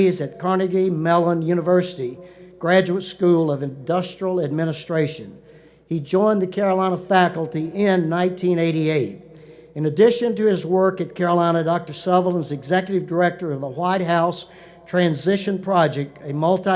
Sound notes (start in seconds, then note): none